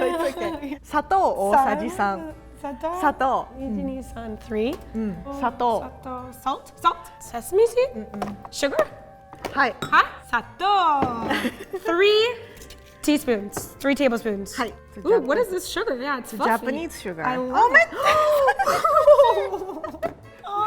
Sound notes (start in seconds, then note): 1.0 speaking in Japanese; 3.6 counting in Japanese; 5.2 speaking in Japanese; 9.3 speaking in Japanese; 14.4 speaking in Japanese; 18.0 laughing